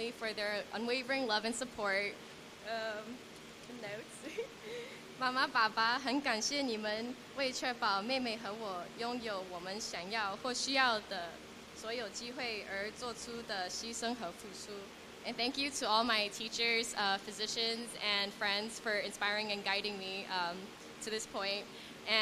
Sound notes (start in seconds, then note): 4.5 non-english speech